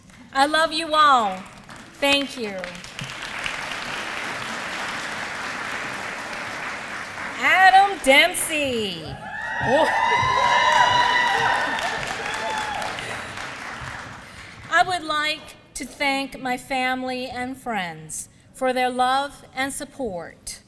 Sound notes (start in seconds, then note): 2.5 applause; 9.2 applause